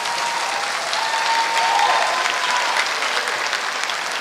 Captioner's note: applause